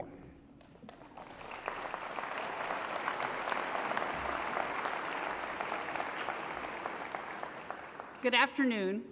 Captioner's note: applause